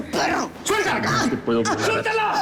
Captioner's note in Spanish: Quejidos